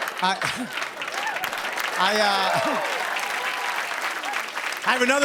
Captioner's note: laughter; cheers and applause